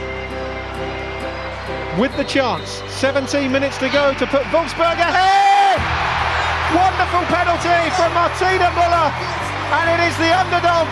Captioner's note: applause